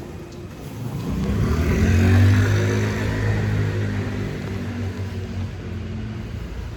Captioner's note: vehicle passes loudly